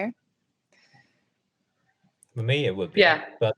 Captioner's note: laughs